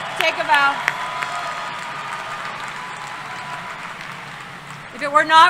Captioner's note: applause and Cheering